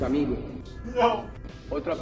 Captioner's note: sobs